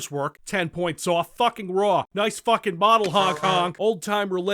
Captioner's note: honk-honk